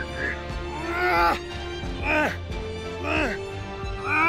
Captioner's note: grunts